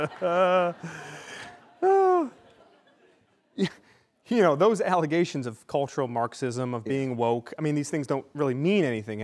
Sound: laughter

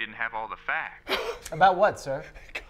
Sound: burst of laughter

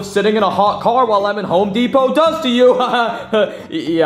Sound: laughing

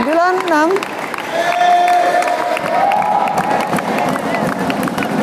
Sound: applause

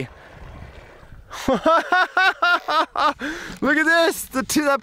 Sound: laughs

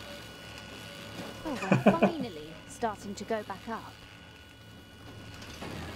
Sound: chuckles

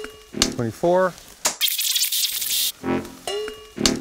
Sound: tape rewinds

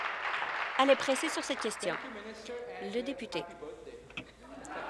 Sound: applause

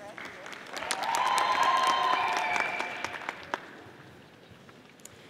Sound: audience applauding

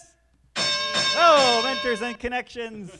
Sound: bell sounding

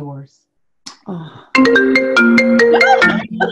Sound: laughs

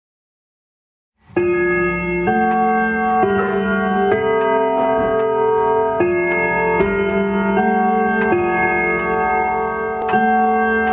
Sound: sound of clock

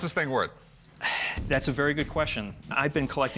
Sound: sighs

